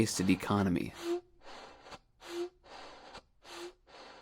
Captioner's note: air puffs